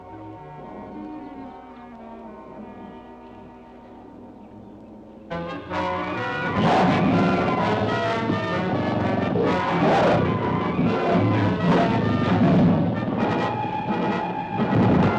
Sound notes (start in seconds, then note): 5.3 dramatic music; 5.7 animals bellowing